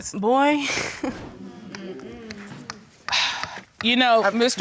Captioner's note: chuckles